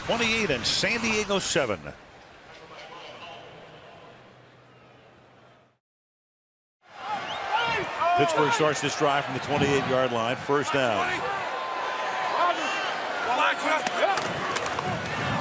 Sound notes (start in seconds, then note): 3.2 pa announcement